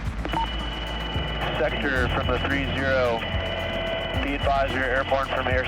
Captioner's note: man On Radio